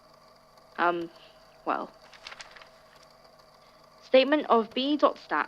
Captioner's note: papers shuffle